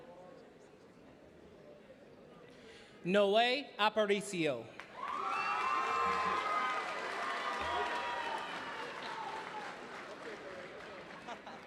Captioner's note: cheering and applause